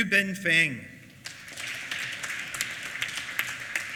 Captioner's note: applause